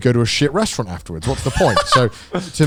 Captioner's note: laughing